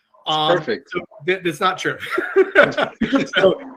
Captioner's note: laughs